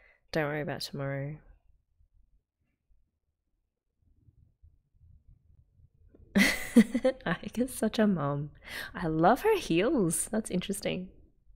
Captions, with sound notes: Don't worry about tomorrow. [laughs] Aika's such a mom! I love her heels! That's interesting.